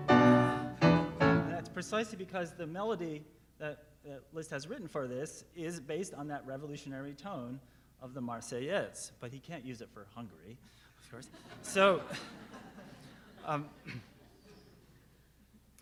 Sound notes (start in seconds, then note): 11.9 laughing